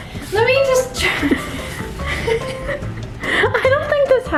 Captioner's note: both laughing